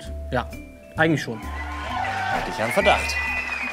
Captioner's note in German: Jubel, Applaus